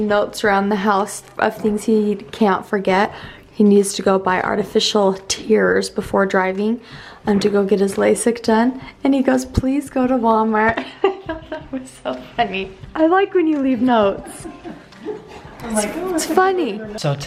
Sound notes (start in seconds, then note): 10.7 chuckles